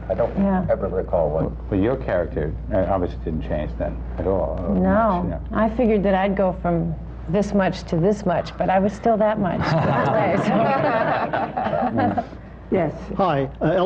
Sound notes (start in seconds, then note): 9.6 laughter